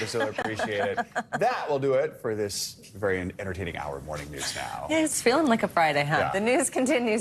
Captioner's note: laughter